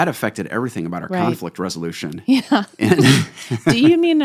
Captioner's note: laughter